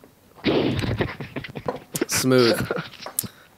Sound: laughter

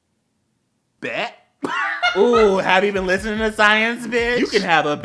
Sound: laughter

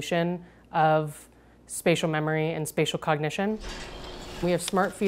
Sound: metal creaking

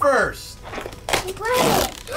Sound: box tearing

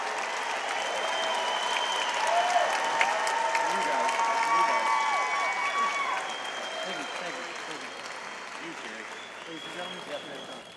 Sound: audience applauding and cheering

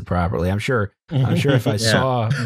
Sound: chuckles

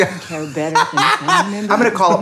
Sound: laughing

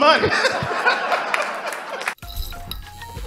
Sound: laughing

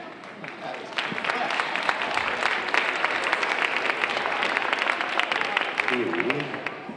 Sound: audience applauding

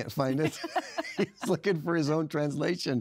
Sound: laughs

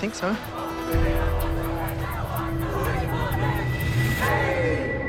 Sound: protesters chant

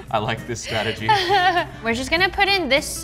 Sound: laughter

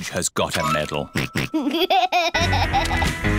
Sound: snorts and laughs

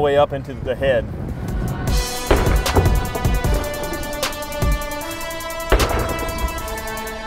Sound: dramatic music; sledgehammer thudding

